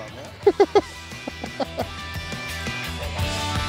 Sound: laughs; upbeat music

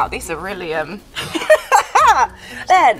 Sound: Jessie laughs

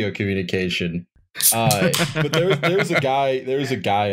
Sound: tasty beer can snap~!

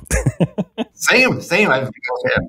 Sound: laughs

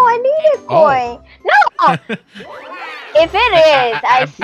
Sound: chuckles

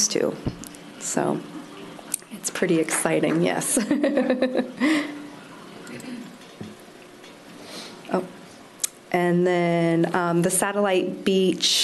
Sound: laughter

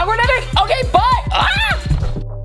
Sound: short scream

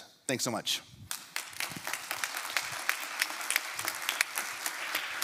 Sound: applause

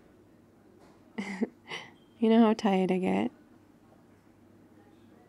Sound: laughs

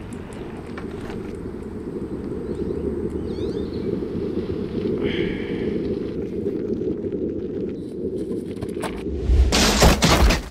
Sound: wind blowing

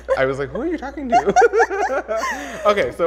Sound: laughs

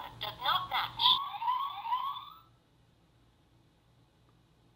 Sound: siren wailing

